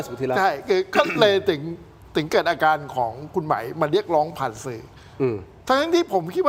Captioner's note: clearing throat